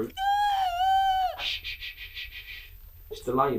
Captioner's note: loud crying; shushing